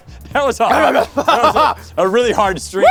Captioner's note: growls and huffs